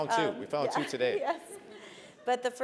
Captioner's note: laugh